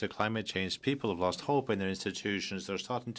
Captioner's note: speaking French